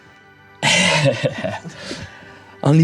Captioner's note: chuckles